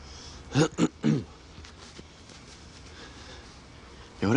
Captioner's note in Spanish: Carraspea